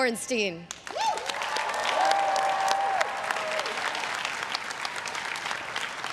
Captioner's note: everyone cheering and applauding